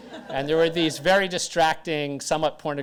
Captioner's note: audience laughter